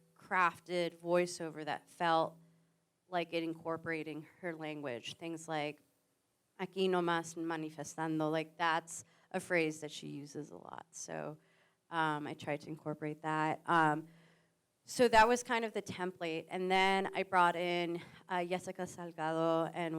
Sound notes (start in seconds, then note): 6.2 says Spanish phrase